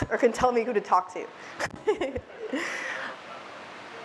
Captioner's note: laughs